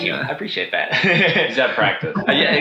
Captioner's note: laughs